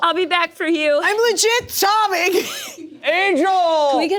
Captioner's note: laughs